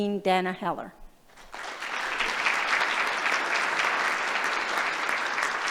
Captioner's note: applause